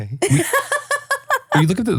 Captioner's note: laughs